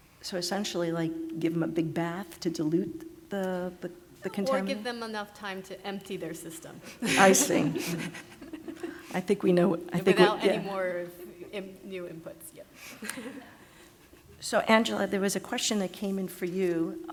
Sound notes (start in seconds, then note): 7.0 laughter; 12.9 laughs